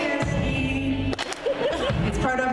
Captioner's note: laughter